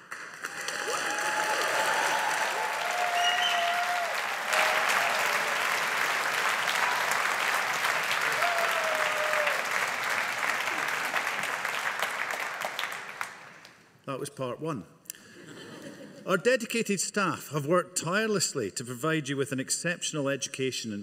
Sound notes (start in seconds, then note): 0.1 audience applauding; 15.4 audience laughing